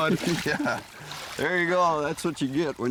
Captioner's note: laughs